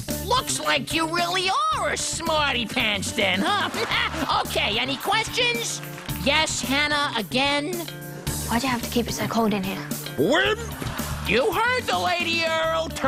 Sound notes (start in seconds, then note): 3.4 chudd laughs